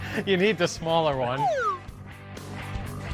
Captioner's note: laughs